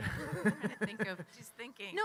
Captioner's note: chuckles